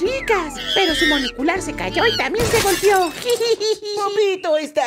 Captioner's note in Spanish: risas